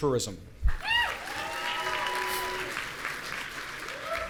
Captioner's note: audience cheering